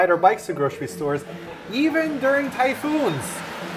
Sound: rains in background

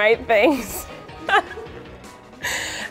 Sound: laughs

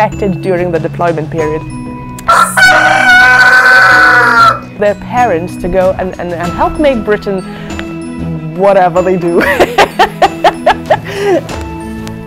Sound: cockerel crows

